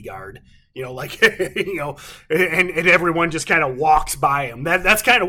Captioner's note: chuckles